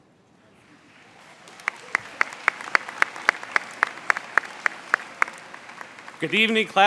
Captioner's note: crowd applauds